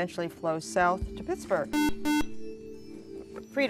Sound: buzzer

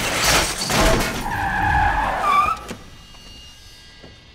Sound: brakes squeal

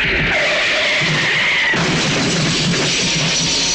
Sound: tires squealing

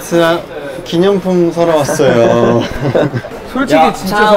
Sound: laughing

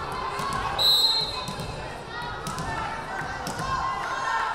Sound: whistle blaring

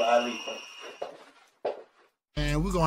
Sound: footsteps

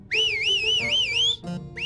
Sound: whistles victoriously

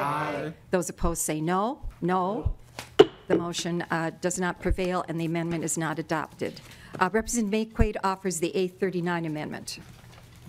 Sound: chorus of ayes

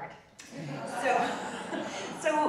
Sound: audience laughing

